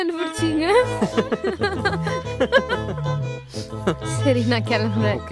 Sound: both laughing aloud

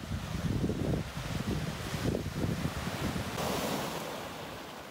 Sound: waves crashing

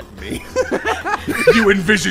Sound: laughter

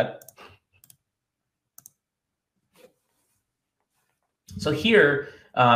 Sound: keyboard clicks

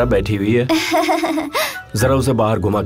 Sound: laughing

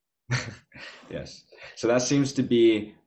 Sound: chuckles

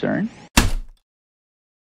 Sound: heavy typewriter keystroke

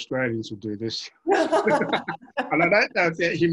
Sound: all laugh

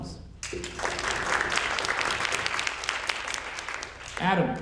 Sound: audience applauding

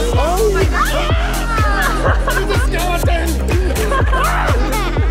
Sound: wizard frog screams

